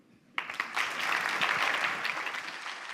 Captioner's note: applause